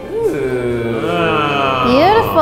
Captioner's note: amazed noises